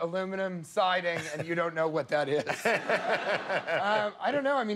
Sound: laughter

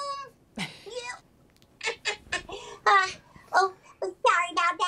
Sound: laughs

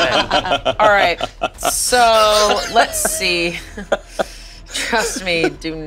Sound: everyone laughing; laughing

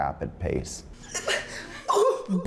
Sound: stuttering

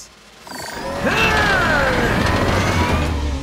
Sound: grunting

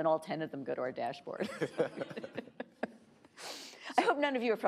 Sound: laughing

